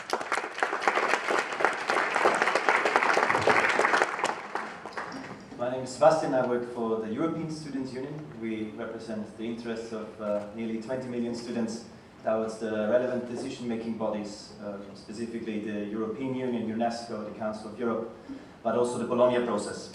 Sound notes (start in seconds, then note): 0.0 applauses